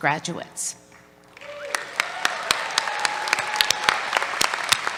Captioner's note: applause